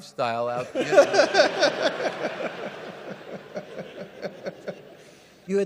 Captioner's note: audience laugh